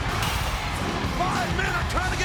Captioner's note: crowd cheers